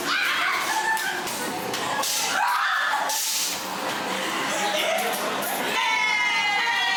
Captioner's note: laughs